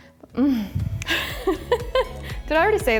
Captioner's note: laughs